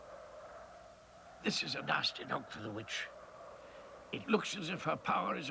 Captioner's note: none